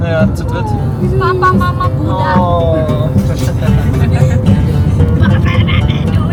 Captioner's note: speaking German; laugh; speaking German